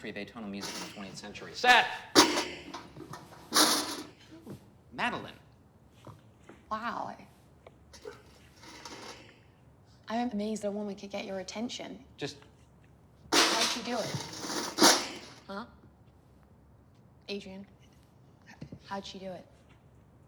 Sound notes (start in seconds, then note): 2.1 bucket banging; 13.3 bucket banging